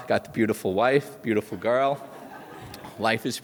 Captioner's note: audience laughs